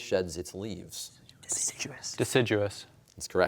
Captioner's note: whispering